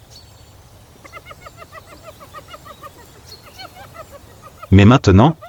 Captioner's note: laughter